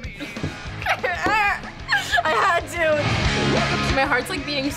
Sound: giggling

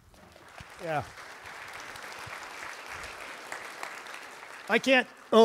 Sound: audience applauds

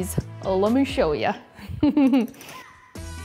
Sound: laughs

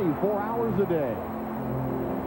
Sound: crowd cheers for something - no, not that Whataburger ad

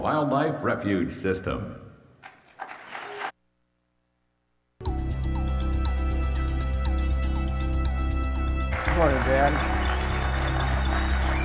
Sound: applause

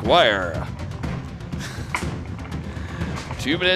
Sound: laughs

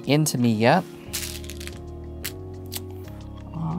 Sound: stones rattling

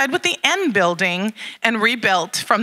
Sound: none

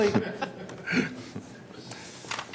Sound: laughter

